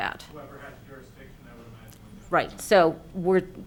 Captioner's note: speaking off mic